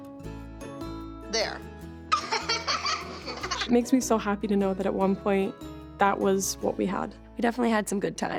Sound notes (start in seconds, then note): 2.1 girls giggling